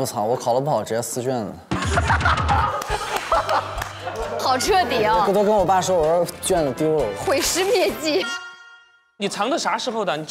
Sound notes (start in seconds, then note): 1.8 hahahaha